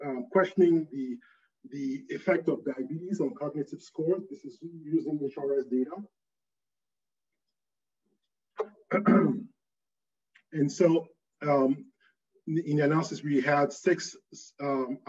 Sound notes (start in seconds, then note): 8.9 clears throat